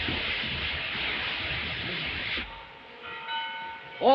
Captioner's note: bells tolling